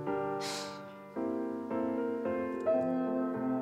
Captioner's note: sighs; humming; piano resonating